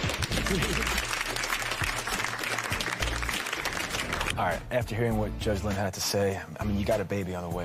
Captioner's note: applause